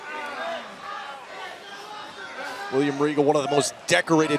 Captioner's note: crowd cheering